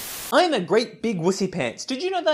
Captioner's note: Static